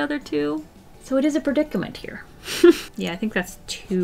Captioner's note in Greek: Γέλια